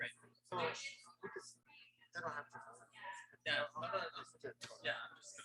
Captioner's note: people chattering indistinctly